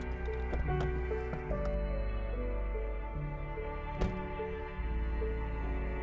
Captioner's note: door opening and closing; poignant music continuing to play